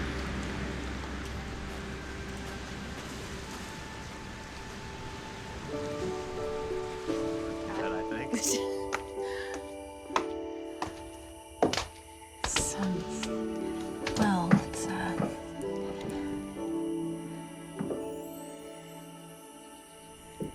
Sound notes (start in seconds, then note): 8.3 chattering; 9.9 footsteps